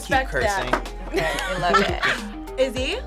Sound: React laughs

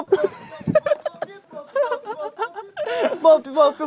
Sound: laughter

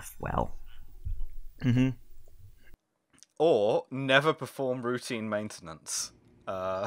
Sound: laughter

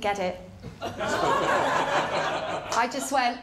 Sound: laughter

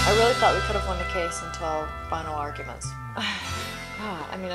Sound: sighs

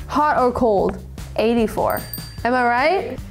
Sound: image pops; check dings

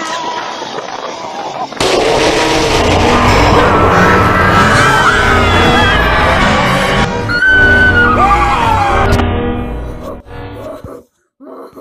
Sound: all screaming; roaring

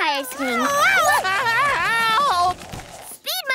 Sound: screaming

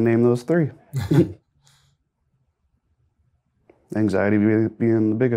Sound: both chuckle

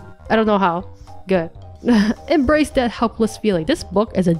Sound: chuckles

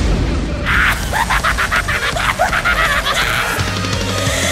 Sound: demonic Laugh

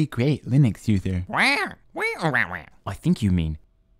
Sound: squawking angrily

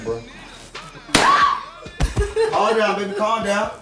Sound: gunshot fires; screams; sobs

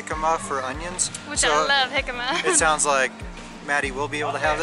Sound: laughter

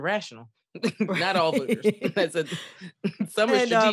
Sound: laughter

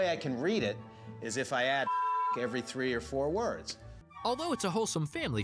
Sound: beep

